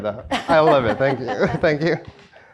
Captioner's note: laugh